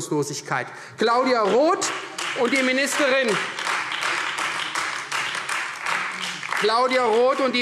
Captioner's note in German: Beifall Freie Demokraten und vereinzelt AfD